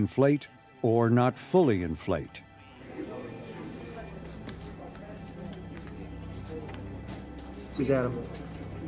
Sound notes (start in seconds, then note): 2.9 phone rings; 4.2 murmurs